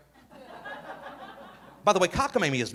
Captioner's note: audience laughing